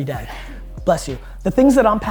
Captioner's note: audience member sneezes